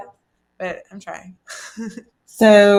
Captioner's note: laughs softly